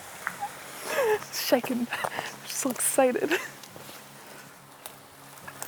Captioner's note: laughs